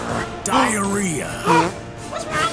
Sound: farts

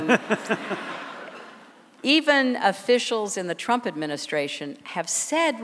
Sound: laughter

